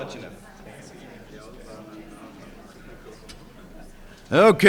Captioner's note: people chattering